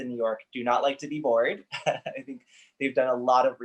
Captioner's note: laughs